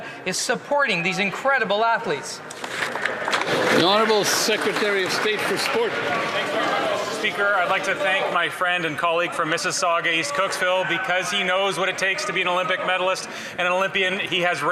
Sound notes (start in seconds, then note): 6.0 some Applause